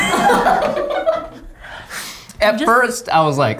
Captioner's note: laughs